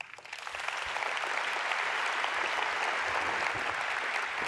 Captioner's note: audience applauds